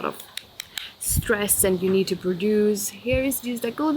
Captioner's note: hands smack